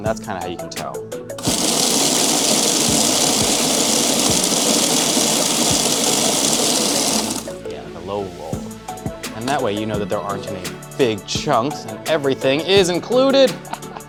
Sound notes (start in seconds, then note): 1.4 machine buzzing